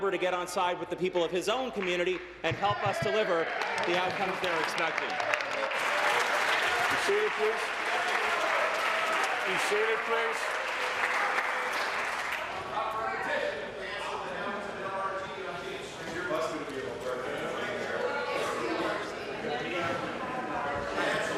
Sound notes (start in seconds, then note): 10.0 applause